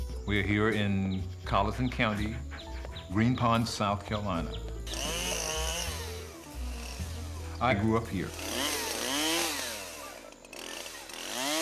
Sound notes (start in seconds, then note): 5.3 saw whirring